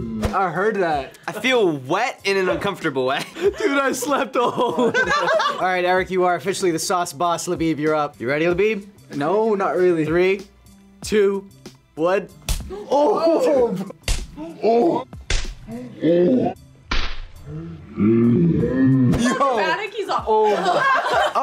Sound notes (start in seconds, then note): 3.1 laughs; 14.0 loud smack; 19.0 all laugh